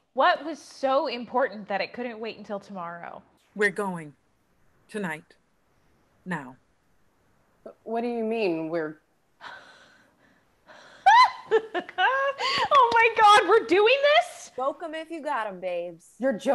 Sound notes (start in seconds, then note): 11.0 screams